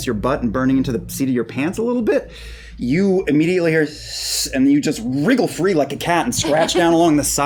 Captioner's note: hissing